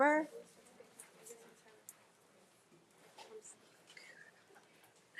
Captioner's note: speaking faintly